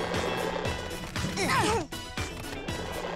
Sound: grunting

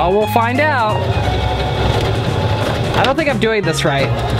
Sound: sewing machine whirring

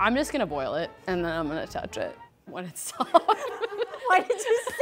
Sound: laughs

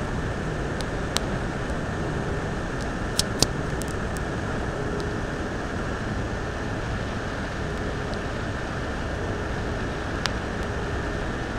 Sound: crackling & popping sounds

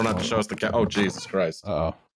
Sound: faint meow

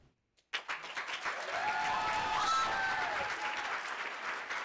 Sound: audience applauding

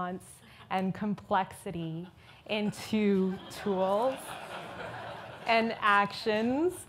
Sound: audience laughs

